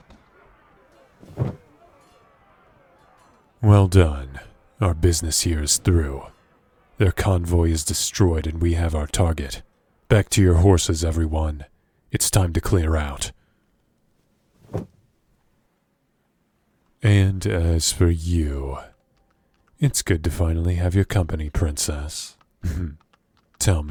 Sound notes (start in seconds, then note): 1.2 box moving; 14.6 wagon movement